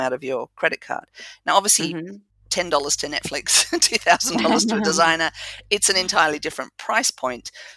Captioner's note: laugh